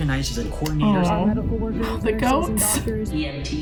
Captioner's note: gasps